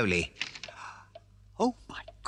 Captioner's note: gasps